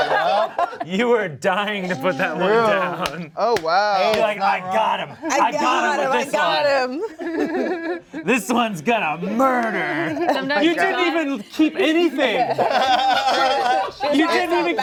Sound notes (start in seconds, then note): 0.2 cast laughs; 7.3 laugh; 12.4 cast laughs